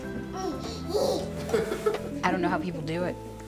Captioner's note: baby and father laughing